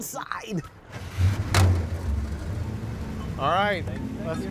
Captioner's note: door slams shut